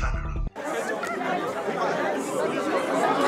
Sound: crowd talking

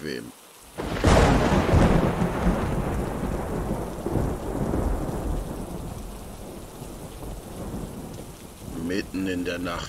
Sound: rumble of thunder

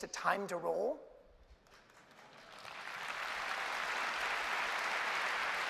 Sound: applause

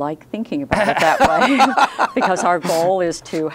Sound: laughing

